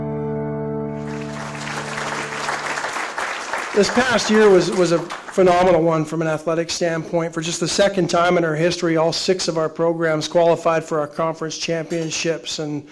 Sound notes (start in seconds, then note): 0.9 audience applauding